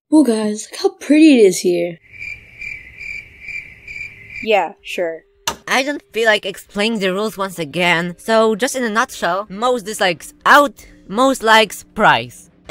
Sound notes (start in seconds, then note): 2.0 crickets; 5.3 click